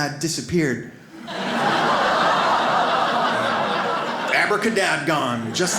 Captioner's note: audience laughs